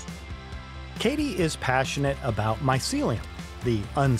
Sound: voiceover

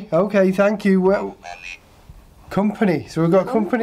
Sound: robot Voice

